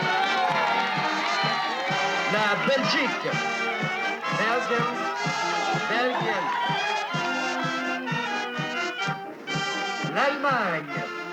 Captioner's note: crowd cheering